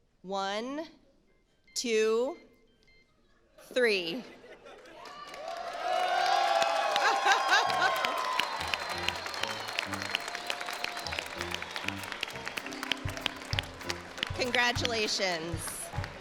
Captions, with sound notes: One, two, three. (phone beeps) (audience laughs) (audience cheers) (bright energetic music) Congratulations.